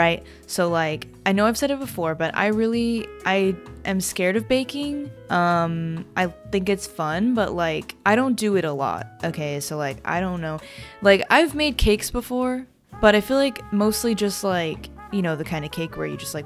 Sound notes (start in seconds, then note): none